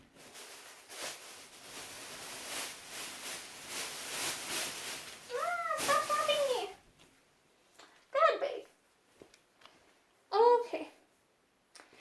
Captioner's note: plastic bag rustling